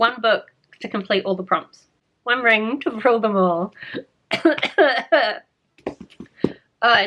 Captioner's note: chokes